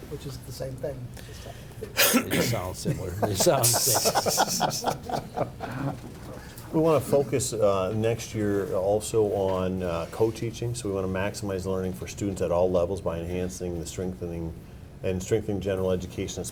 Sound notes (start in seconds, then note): 1.9 laughing